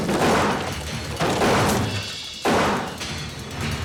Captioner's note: gunshot